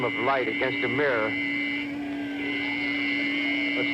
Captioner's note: people chattering in distress